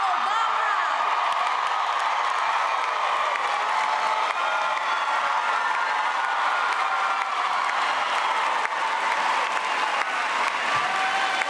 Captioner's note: cheering and applause